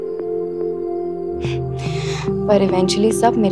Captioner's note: Chuckles